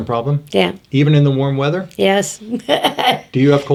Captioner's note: laughs